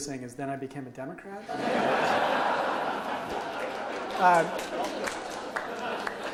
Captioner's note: audience laughs and applauds